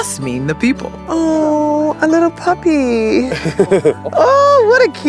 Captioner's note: chuckles